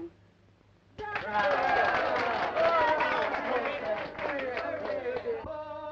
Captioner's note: applause and cheering